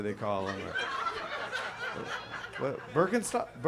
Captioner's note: audience laughs